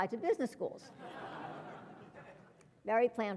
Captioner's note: laugh